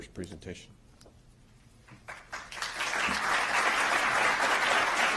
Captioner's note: applause